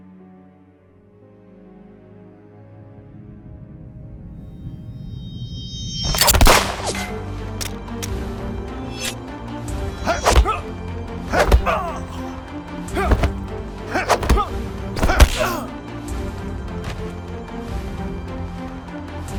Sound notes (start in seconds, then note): 6.2 gun firing; 8.3 dramatic music; 11.3 both moaning; 12.5 dramatic music; 15.0 both moaning; 16.3 dramatic music